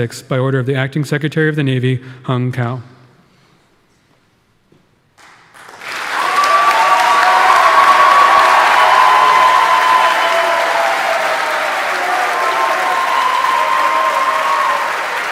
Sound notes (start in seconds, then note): 5.4 audience applauding; 6.5 audience cheering